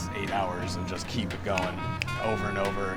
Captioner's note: snaps fingers